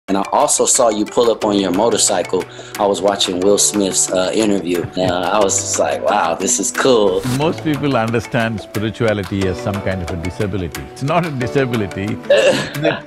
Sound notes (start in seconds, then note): 4.6 Sadhguru laughs; 12.2 laughs